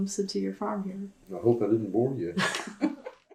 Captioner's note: laughter